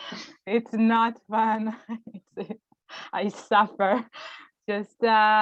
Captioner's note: laughs